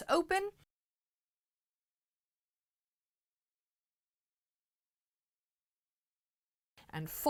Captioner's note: no Sound Present